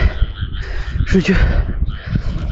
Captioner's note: panting